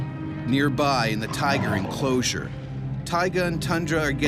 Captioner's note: voiceover